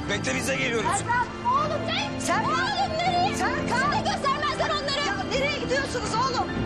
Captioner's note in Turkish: Bağırıyorlar